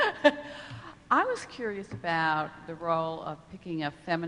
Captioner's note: laughing